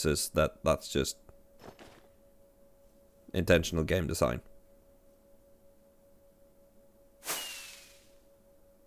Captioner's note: pause